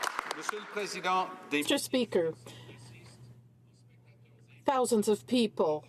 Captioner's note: some Applause